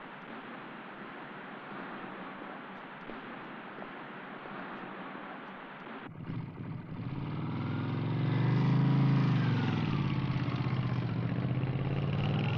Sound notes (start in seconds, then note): 6.0 motorcycle engine revving